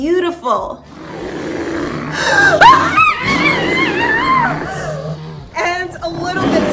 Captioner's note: sound of bear